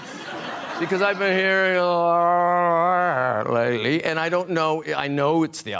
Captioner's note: slurring